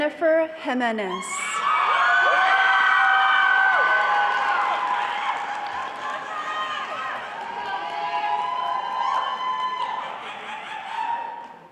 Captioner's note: cheering and applause